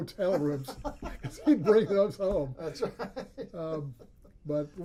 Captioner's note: laughs